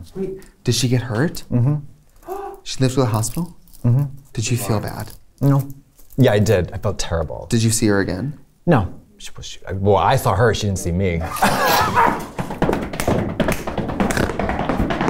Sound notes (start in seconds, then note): 11.2 laughter